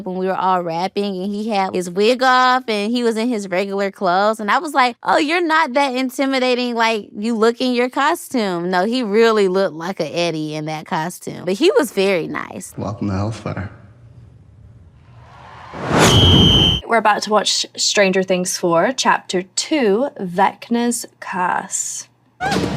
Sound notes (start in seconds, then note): 15.4 crowd cheering; 15.9 whistle trills